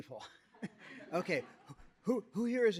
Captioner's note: laughter